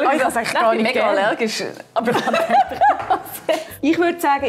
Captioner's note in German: lacht